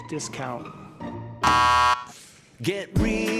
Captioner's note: buzzer buzzes